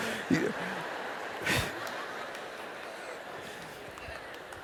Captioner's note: laughter